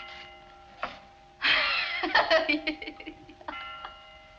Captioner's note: laughs